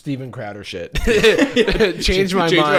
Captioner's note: laughing